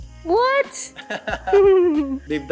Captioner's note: laughs